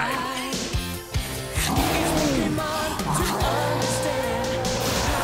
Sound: roaring

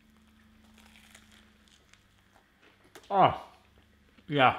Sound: crunching

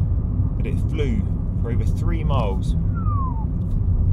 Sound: whistles

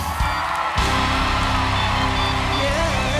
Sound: cheering and applause

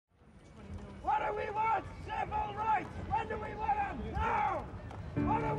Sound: chanting

